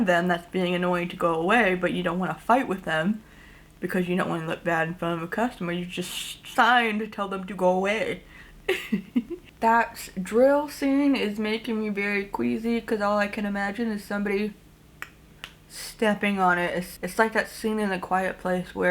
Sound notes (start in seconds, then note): 8.6 giggles; 15.1 ticks tongue